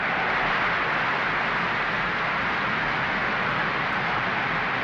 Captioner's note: crowd cheering